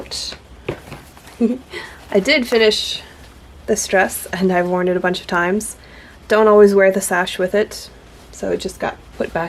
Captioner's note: giggles